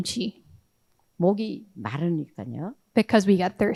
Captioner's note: speaking in foreign language